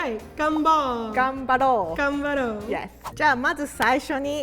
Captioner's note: speaking in Japanese